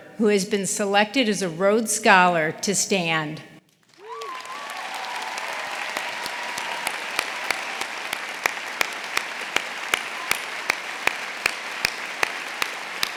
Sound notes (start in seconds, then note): 3.8 audience applauding; 3.9 audience cheering